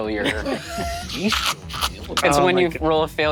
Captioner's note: Murph and Siobhan laughing